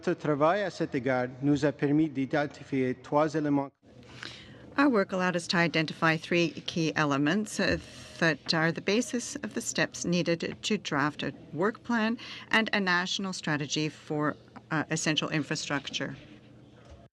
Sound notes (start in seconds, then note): 5.8 speaking French